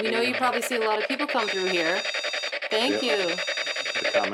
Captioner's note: machine beeps